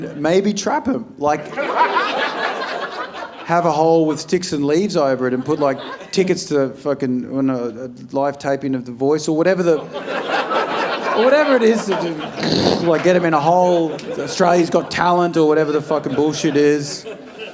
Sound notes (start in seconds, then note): 1.4 audience laughing; 10.4 audience laughing